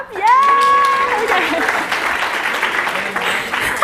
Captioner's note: applause